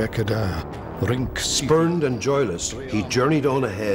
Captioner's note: man speaking Old English